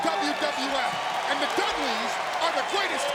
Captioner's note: audience cheering